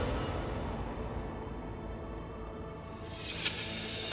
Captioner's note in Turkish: Rüzgâr sesi